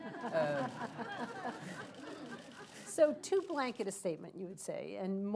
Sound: laughter

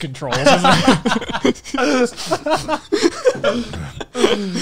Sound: everyone laughs

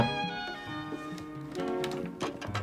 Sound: knocking

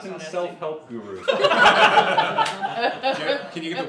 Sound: laughter from the room

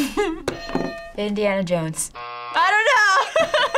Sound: chuckles; hitting bell; buzzer; laughs

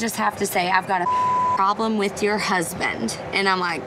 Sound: beep

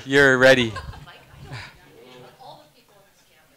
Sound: laughing

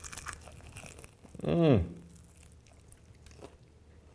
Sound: crunching

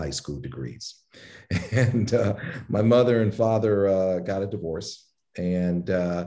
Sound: laugh

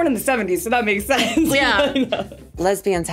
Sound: laughs

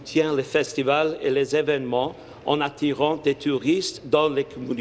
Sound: speaking in French

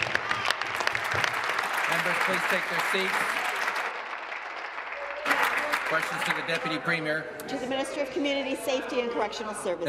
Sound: applause

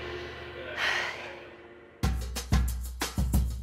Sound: sighs; upbeat music

